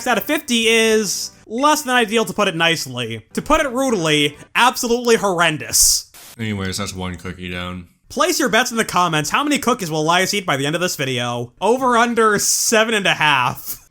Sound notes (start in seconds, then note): 5.7 static